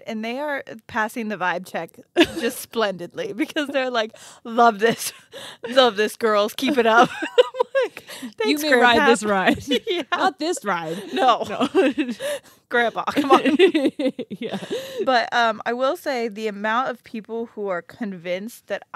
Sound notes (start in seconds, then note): 6.6 group laughs; 10.6 laughs; 12.8 group laughs